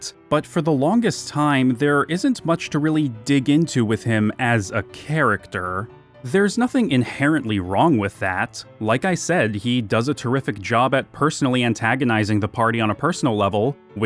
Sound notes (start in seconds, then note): none